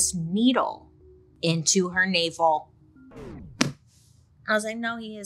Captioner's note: record scratches